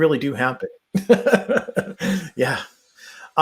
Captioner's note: laughs